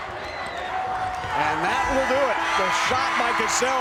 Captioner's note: buzzer rings